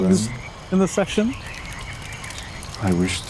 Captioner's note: frogs croaking; fire crackling